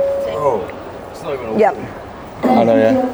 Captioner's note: hums